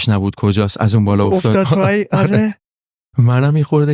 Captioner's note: laughs